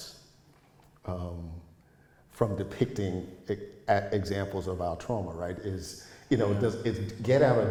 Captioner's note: chuckles